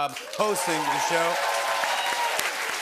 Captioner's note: cheers and applause